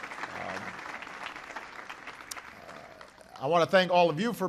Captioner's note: applause